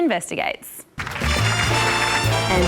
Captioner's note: applause